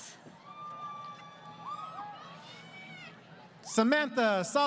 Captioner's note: crowd Cheering